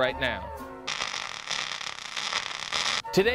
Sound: scratching sound

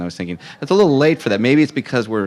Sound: audience laughing

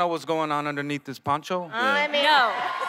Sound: cheering

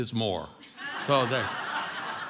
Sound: congregation laughing

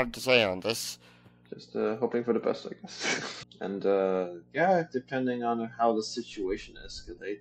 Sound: nervous laughter

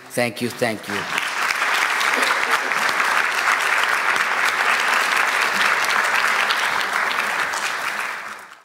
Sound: applause

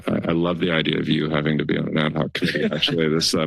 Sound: laughter

